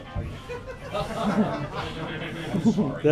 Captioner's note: laughter